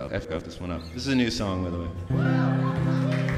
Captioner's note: clapping